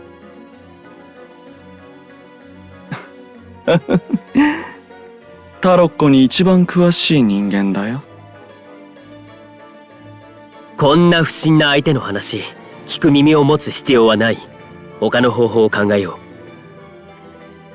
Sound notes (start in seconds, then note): 3.6 laugh